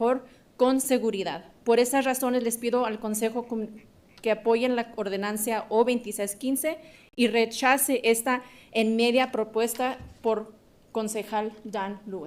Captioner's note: speaking in spanish